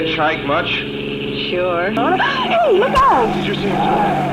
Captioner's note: gasps